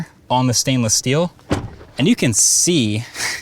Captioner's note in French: la porte claque